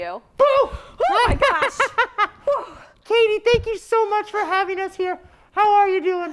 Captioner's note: shocked noises